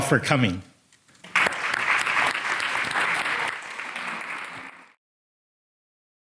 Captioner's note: audience applauds